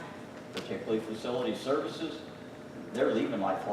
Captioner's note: none